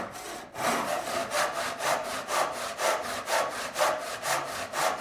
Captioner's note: saw rasping